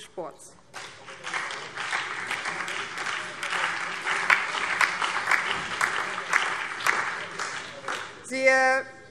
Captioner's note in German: Beifall BÜNDNIS 90/DIE GRÜNEN, SPD und DIE LINKE